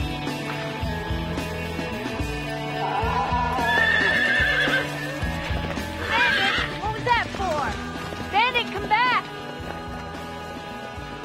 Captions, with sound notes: (horse neighs) Bandit, what was that for? Bandit, come back.